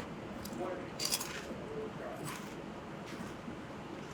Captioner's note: crunch sounds